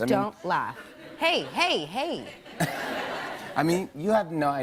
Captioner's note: light laughter